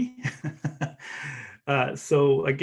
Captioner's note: laughs